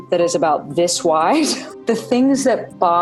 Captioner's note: laughs